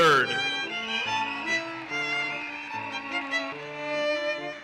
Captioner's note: audience cheers and applauses